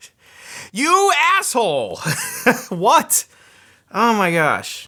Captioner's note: laughs